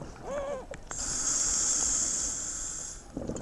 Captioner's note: yelping